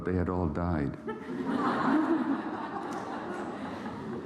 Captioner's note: laughter